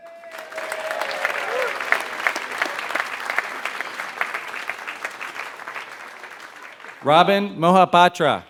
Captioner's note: applause